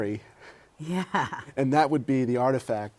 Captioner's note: laughter